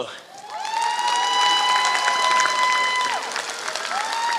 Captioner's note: applause